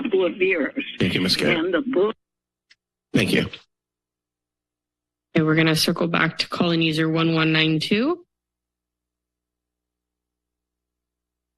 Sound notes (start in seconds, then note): 3.1 pause; 8.3 silence